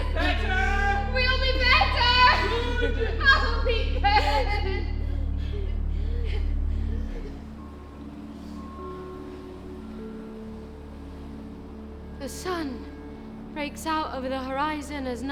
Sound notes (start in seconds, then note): 6.8 sobbing; 10.9 gentle music